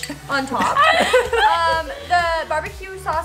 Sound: laughs

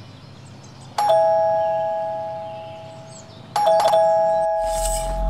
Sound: door bell rings

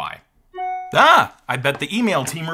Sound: inbox alert dinging

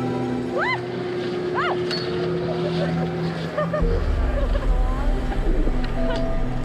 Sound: laughs

